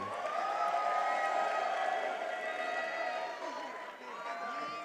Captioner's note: attendees cheering